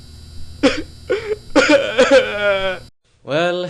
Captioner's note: sobbing